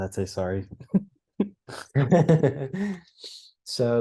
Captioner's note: laugh